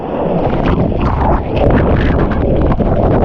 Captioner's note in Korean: 파도치는 소리